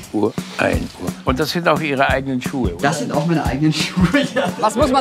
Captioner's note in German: lachend